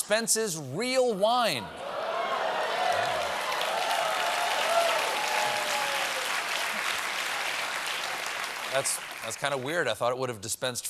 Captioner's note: cheers and applause